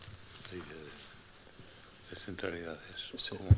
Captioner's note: non-english speech